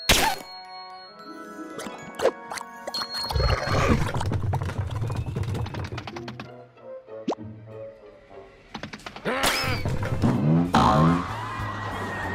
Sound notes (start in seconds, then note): 3.4 pigs growl; 10.7 boing boing